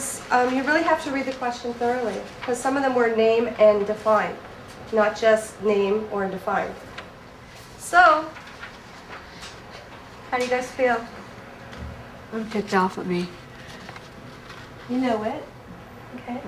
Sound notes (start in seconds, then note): none